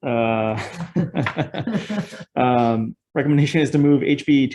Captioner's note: chuckle